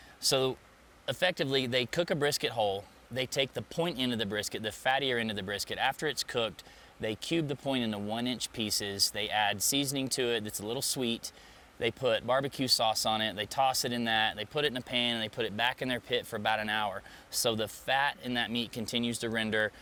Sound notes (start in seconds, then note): none